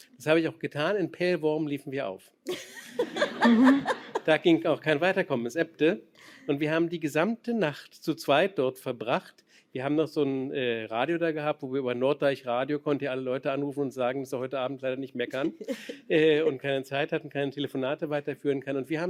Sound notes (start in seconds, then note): 2.4 laughter